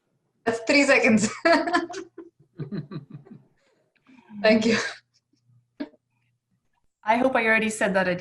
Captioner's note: laugh